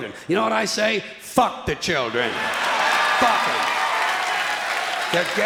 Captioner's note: clapping and cheering